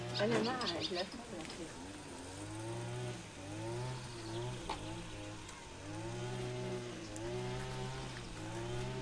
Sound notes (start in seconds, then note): 1.6 lawnmower sounds